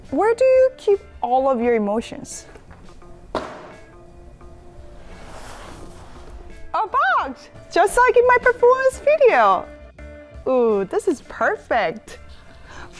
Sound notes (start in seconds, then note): 3.3 object thuds